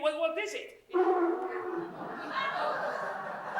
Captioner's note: coco blows his nose loudly